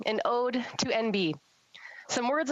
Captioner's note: speaking French